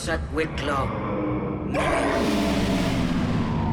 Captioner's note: speaking in Leviathan; power shut down